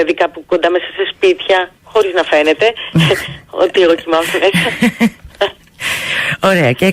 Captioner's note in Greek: γέλια